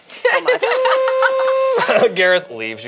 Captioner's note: group laughs; lift whirs